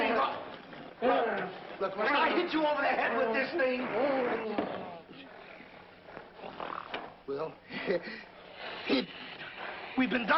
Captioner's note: laughs nervously